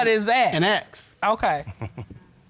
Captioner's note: chuckling